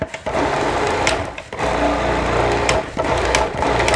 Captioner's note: machine whirs